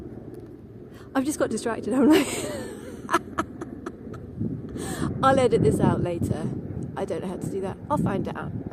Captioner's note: laughs